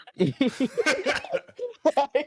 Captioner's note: laughter